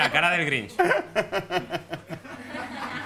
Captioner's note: laughs